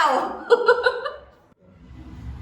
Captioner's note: laughs